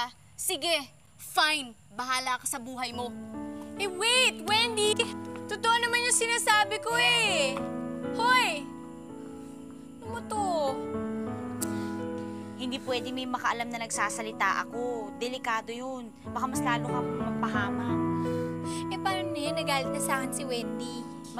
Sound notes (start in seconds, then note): 11.6 clicks tongue